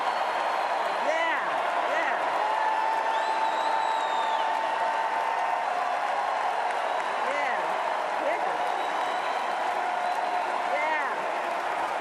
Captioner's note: applause